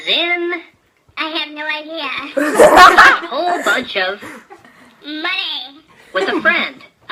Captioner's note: laughter